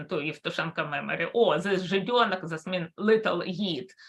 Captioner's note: speaks in Russian